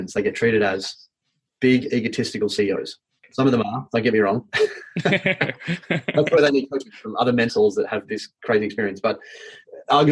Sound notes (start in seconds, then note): 4.6 laughing